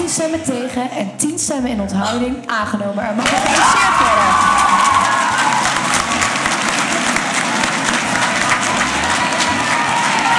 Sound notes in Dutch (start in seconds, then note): 6.4 applaus